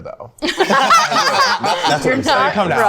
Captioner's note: group laughing